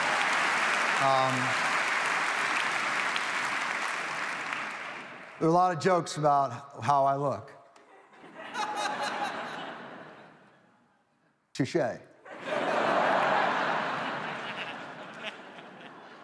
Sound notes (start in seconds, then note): 0.0 audience applauds; 7.9 audience laughs; 12.3 audience laughs